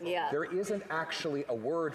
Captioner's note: speaking French